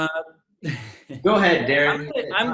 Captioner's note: laughs